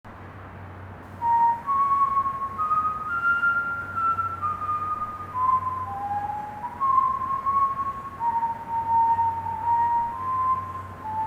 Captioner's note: whistling